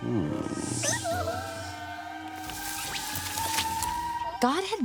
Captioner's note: hiss